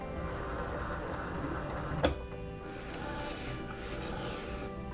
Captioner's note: machine whirring